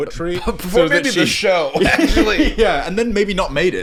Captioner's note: laughing